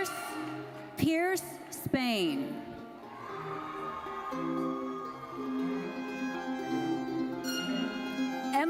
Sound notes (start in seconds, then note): 3.0 audience cheering and applauding